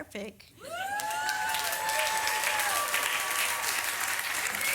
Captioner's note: audience cheers and applause